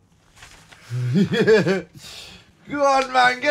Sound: laughing

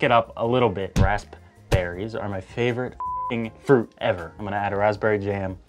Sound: beeps

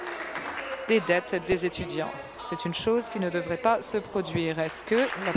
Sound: applause

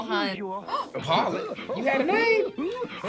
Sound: gasps

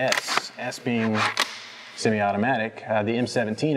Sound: gun charging click

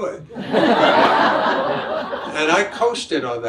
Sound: audience laughs

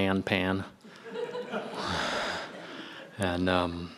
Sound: audience laughing

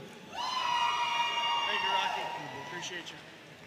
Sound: audience cheering and applauding

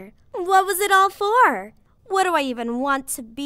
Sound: none

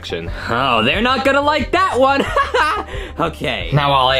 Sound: laughs

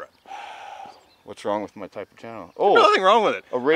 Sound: sighs

